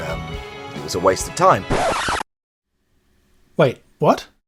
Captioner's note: record scratch